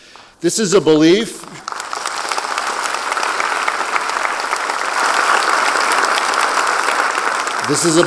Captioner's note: applause